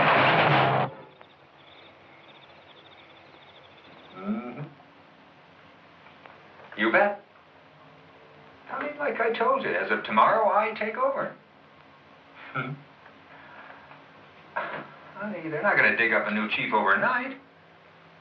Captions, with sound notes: [crickets chirping] Mm-hmm. You bet. I mean, like I told you, as of tomorrow, I take over. [chuckles] Honey, they're not gonna dig up a new chief overnight.